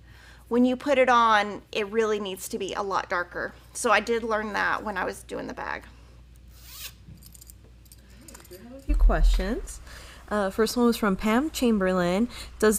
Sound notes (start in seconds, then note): 6.6 bag zipping and chatting